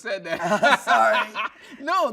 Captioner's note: laughing